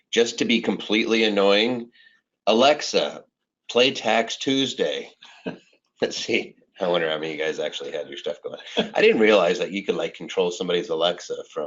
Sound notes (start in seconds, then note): 8.4 chuckling